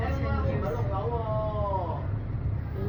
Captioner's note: Cantonese